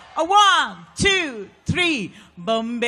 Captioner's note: applause